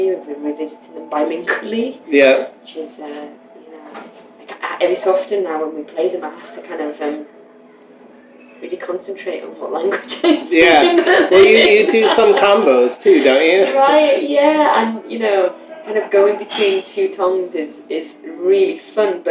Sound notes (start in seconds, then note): 10.7 laughter